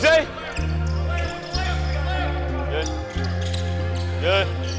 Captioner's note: cheering